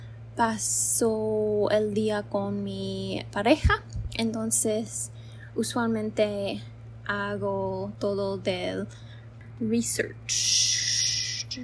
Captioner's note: repeating in english